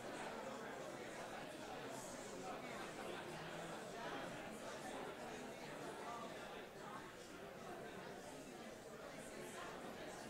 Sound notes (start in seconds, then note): none